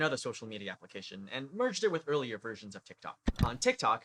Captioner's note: click